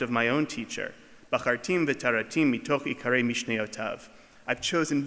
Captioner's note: speaking foreign language